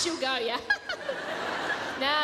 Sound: high pitched laugh

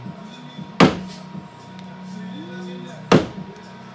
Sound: hammer banging

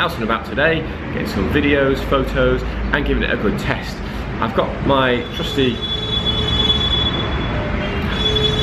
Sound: horns

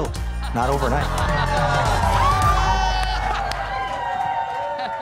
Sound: crowd cheering

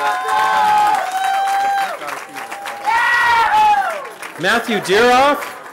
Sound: cheering

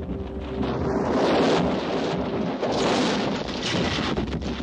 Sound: rocks falling

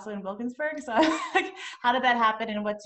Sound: chuckles

